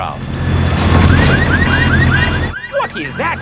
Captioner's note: car alarms blaring